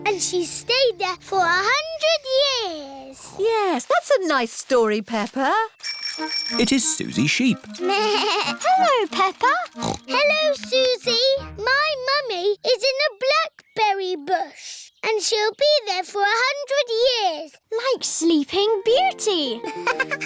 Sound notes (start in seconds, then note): 3.2 snoring; 5.8 bell ringing; 9.7 bleats; 10.1 snorts; 19.6 laughs